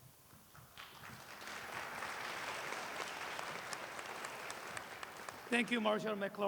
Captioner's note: applause